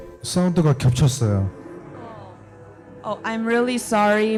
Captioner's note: speaking korean